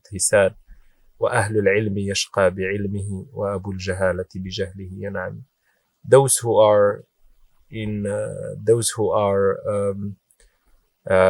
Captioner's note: speaks in Arabic